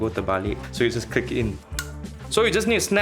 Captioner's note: click